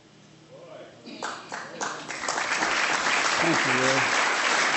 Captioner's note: applause